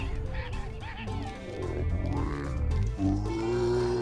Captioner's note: zombie groaning